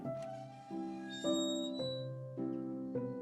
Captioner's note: door creaks open